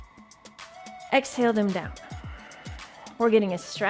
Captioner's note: exhales